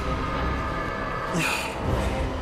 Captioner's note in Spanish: Quejidos